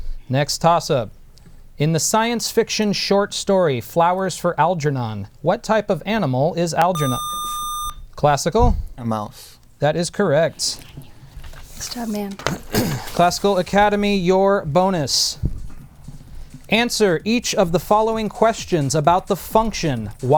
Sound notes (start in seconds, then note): 6.9 buzzer